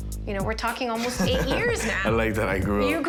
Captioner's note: laughing